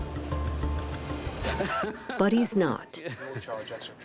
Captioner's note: laughs